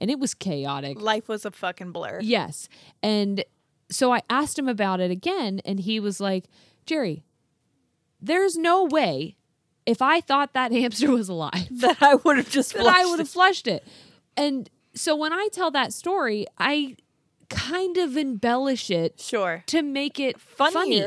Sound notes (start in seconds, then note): 14.2 laughs